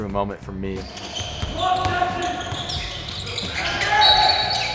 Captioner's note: players shouting